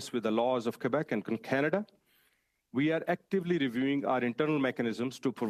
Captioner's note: speaking French